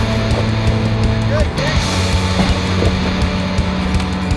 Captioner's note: tires climbing rocks